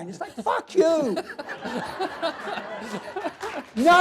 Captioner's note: laughter